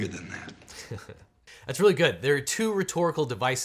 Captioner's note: laughs